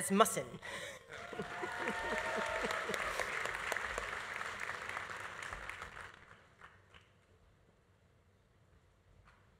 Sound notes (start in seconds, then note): 1.1 audience cheering; 1.1 audience applauding